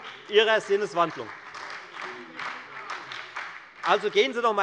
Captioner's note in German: Beifall bei der FDP und der SPD